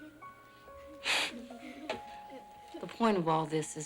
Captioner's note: sniffles